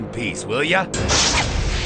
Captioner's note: crashing